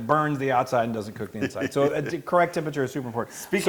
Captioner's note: laugh